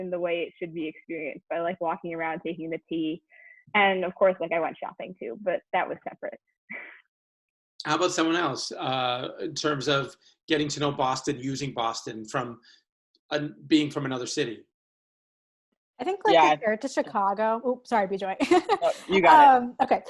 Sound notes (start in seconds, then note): 8.8 chuckles